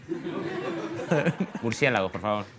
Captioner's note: laughter